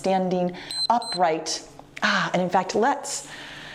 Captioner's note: timer beeps